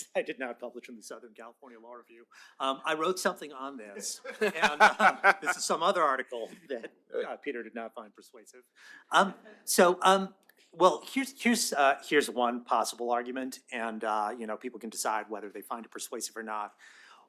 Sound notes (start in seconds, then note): 4.0 laughter